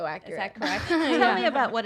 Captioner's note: laughs